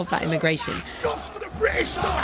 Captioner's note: crowd yelling